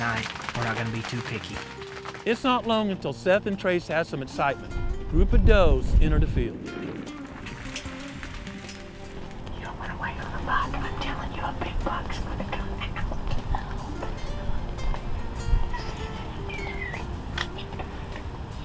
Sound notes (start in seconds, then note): 7.9 whispering